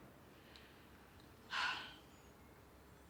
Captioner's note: sighs